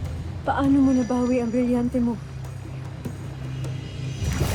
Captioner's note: energy swirling